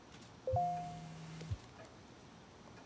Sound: notification ding

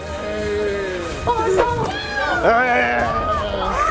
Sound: groans

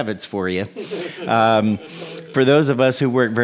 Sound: laughing

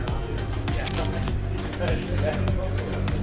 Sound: camera Clicks

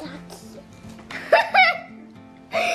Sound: murmurs; laughs

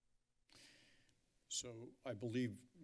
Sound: breathes deeply

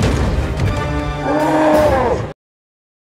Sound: roar

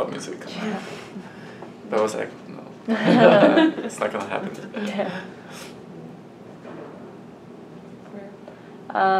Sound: all laugh

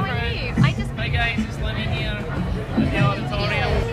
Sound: Scottish accent

